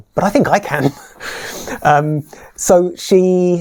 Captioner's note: laughs